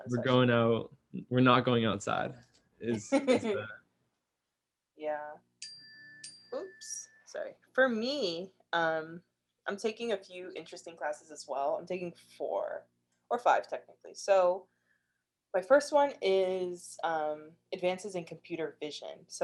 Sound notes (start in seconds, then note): 2.8 laughs; 5.6 bell rings